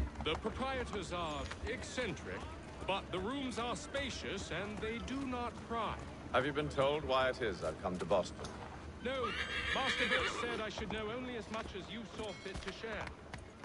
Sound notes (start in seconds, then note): 9.0 horse neighs